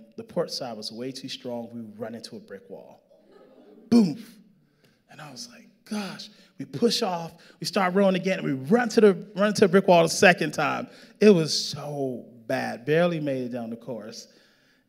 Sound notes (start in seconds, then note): 3.1 audience laughing